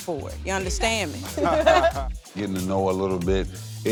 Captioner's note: laughter